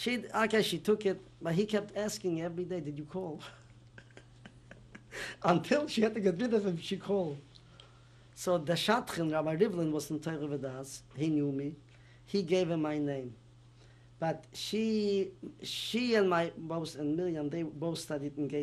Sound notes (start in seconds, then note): 3.4 laughs